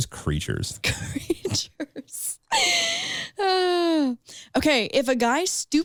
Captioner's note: laughs